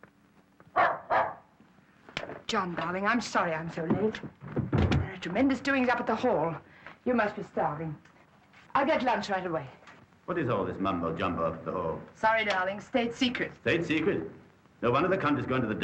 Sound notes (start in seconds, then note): 0.7 Tommy barking